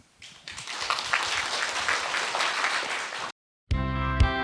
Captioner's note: audience applause